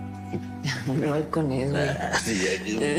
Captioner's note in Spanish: Exclamaciones